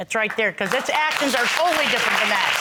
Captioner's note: audience applauding